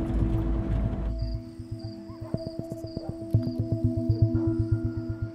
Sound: crickets chirping

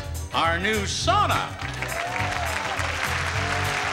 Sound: audience cheering and applauding

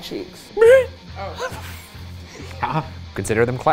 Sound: upbeat rock music; both laughing

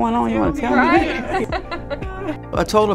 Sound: laughing

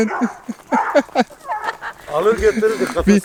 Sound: laughter

